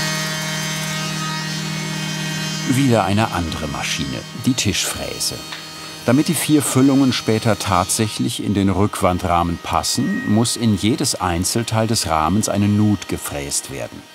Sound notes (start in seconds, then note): 0.8 loud whirring of the machine